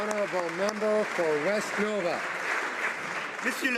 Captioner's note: applause